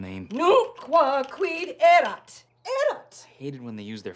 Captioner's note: angrily speaking Latin